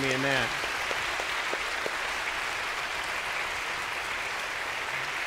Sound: congregation clapping

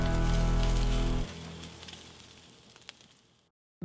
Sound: sizzling

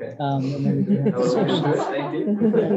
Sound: laughter

